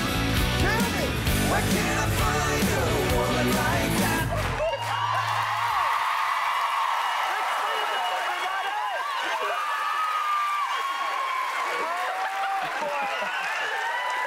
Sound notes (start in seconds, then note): 4.6 cheering; 11.2 cheering continues